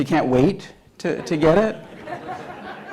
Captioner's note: laughter